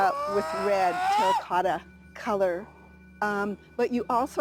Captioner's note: Bigfoot screaming